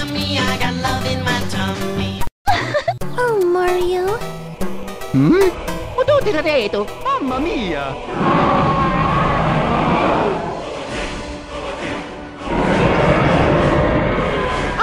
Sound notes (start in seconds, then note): 2.4 giggle; 5.6 faux Italian gibberish